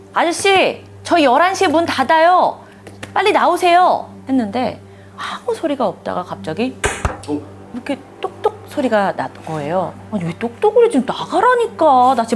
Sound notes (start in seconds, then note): 6.8 knock, knock